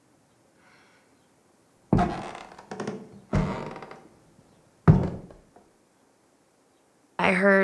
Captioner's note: three loud footsteps